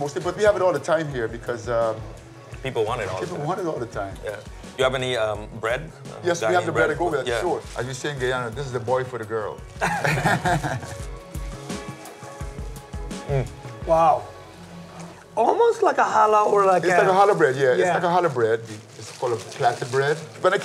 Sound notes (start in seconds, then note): 9.8 laughing